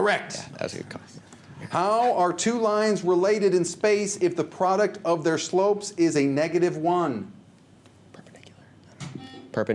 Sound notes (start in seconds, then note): 7.9 whispers; 9.2 buzzer